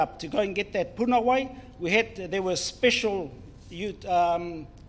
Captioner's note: speaks in foreign language